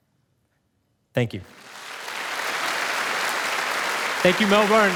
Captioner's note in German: Publikum applaudiert